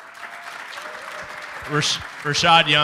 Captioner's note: applause